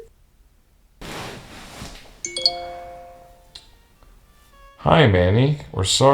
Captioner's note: incoming email sfx